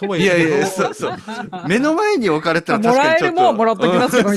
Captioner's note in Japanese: 笑い